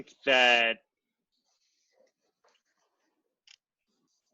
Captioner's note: silence